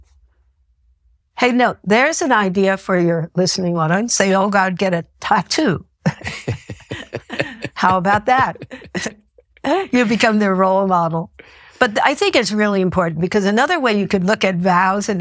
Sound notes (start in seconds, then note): 6.0 both laughing